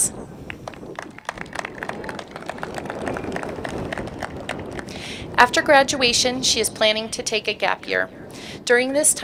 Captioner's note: applause